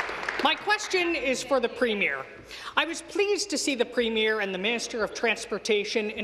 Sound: applause

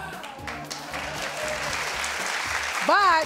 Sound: audience applauds

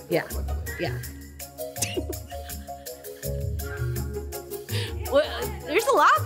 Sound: lively jazz music; chuckles

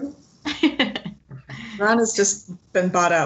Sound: laughs

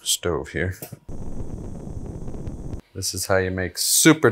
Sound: gas hissing

